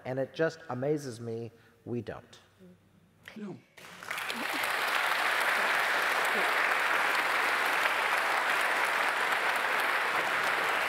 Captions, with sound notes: and it just amazes me we don't. [APPLAUSE]